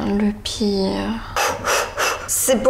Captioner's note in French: Grosses respirations